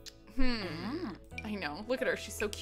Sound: Ariel vocalizes cheerfully

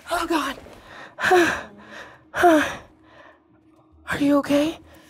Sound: breathing heavily

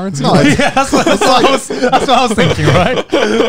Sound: both chuckling

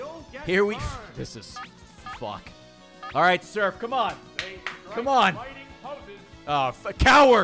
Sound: claps

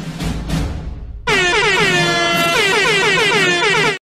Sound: rhythmic airhorn noises

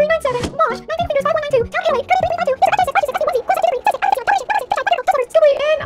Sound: high-speed squabbling

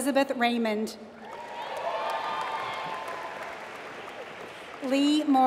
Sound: applause

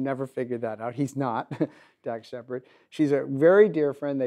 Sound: laughs

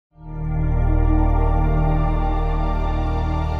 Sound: ambient tone

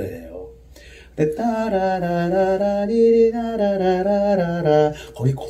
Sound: humming

